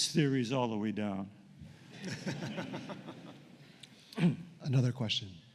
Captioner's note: laughter